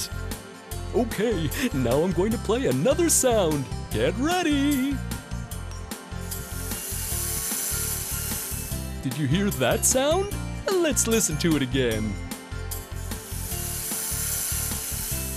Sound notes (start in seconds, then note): 6.2 sound of a snake; 12.9 sound of a snake